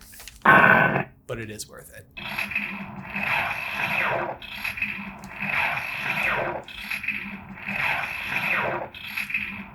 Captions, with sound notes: but it is worth it. (Stormbreaker zapping continuously)